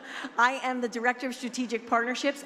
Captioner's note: none